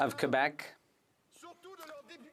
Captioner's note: speaking French